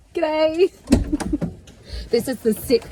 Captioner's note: giggles